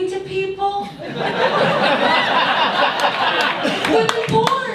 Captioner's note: audience laughs